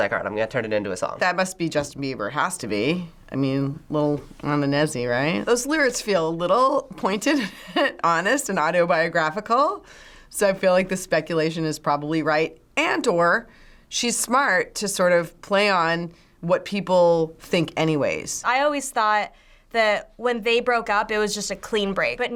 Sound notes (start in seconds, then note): 7.5 chuckles